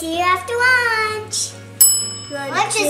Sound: bell dings

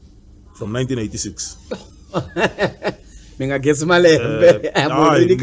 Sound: laughs

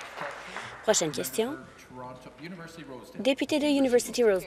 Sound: applause

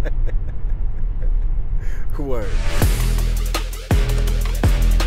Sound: laughs

